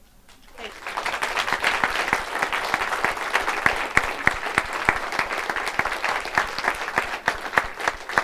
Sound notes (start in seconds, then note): 0.3 audience applauds